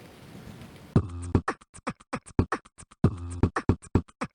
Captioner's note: rain patters; intricate, rhythmic beatboxing